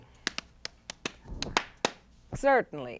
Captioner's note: rhythmic clapping